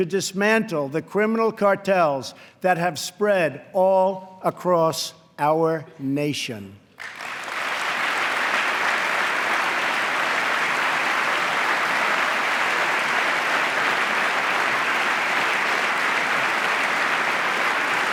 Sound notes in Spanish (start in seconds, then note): 6.9 aplauso